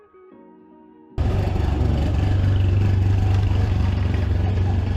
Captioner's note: engine revving